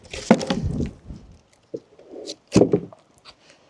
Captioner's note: wood clanging